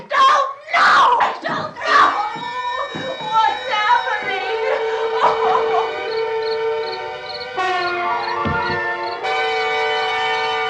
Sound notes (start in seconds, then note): 4.6 whimpers; 5.6 sinister music